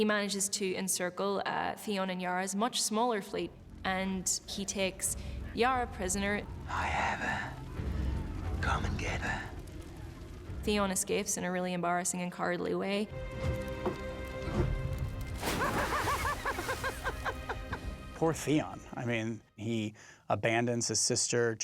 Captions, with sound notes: He manages to encircle Theon and Yara's much smaller fleet. And he takes Yara prisoner. I have her. Come and get her. Theon escapes in a really embracing and cowardly way. (LAUGHS) Poor Theon. I mean, he abandons his sister.